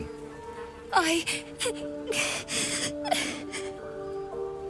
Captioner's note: sobs